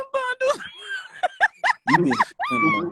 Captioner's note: laughing